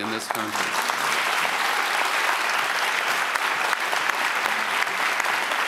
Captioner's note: audience applauds